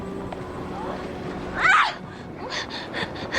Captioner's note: silly screaming